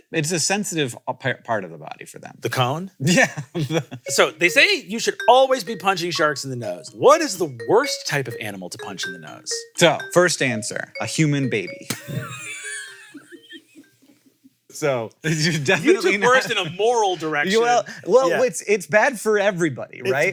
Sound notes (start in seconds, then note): 11.9 laughs